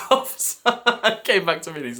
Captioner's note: laughs